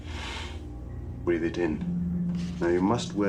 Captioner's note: inhales